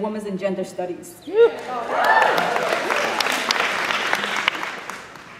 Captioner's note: cheering